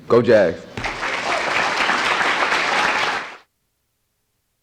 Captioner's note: crowd clapping